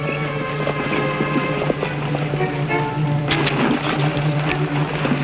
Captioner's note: horses cantering